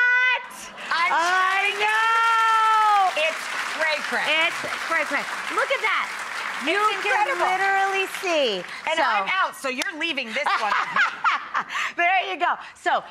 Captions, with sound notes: I know! It's cray-cray. It's cray-cray, look at that (audience applauds) It's incredible. You can literally see. And I'm out, so you're leaving this one for me. (laughs) There you go.